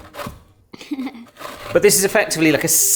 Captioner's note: laughing